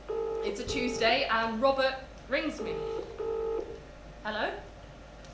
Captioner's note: phone rings; phone rings